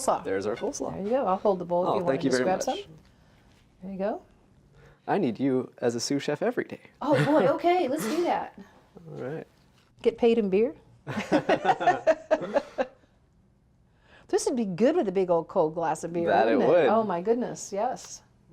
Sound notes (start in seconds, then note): 11.2 laughs